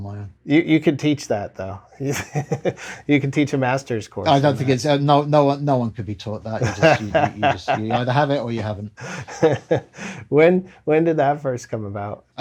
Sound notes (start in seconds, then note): 2.0 laughter; 6.6 laughter